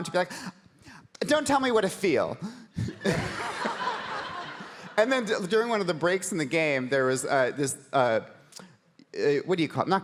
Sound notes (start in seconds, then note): 2.9 audience laughing